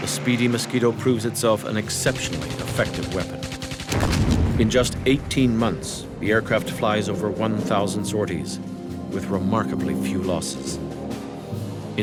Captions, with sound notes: the speedy Mosquito proves itself an exceptionally effective weapon. (guns firing) In just 18 months, the aircraft flies over 1000 sorties, with remarkably few losses.